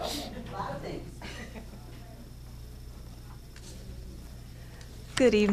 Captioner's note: audience chuckling